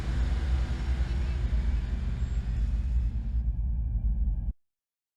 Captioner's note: none